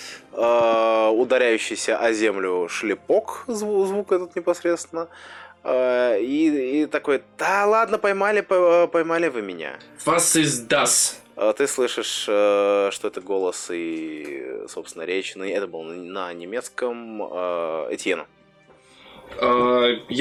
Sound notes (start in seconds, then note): 10.8 in german